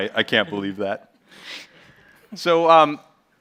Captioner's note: chuckles